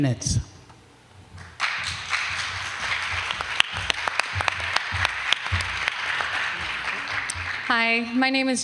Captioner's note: applause